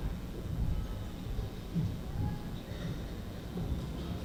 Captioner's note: none